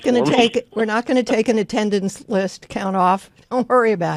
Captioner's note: laughs